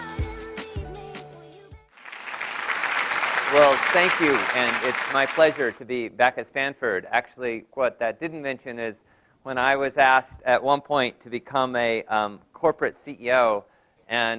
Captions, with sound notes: [APPLAUSE] Well, thank you. And it's my pleasure to be back at Stanford. Actually, what that didn't mention is when I was asked at one point to become a corporate CEO.